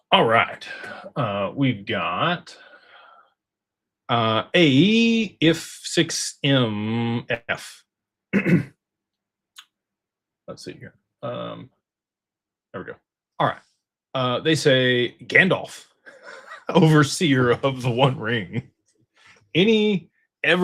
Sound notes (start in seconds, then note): 8.3 clears throat